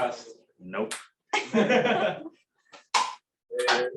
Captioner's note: laughter